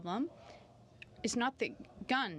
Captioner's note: speaking French